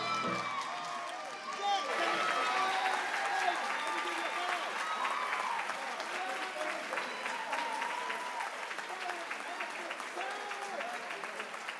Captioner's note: applause